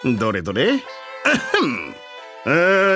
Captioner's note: cough cough